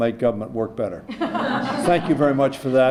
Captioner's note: laughter